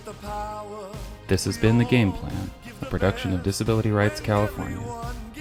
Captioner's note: voiceover